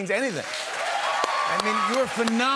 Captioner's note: cheers and applause